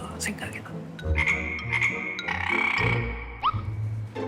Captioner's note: ribbit ribbit